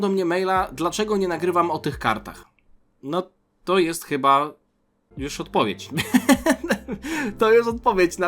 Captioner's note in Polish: śmiech